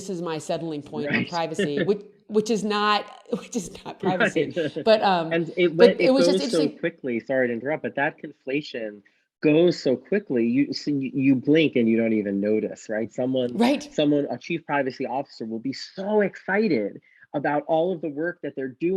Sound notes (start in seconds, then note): 4.0 both laugh